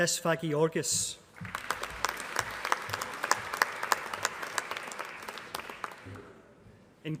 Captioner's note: applause